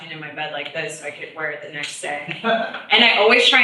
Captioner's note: laughs